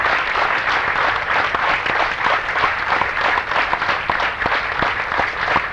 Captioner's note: applause